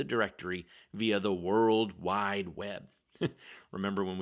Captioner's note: chuckles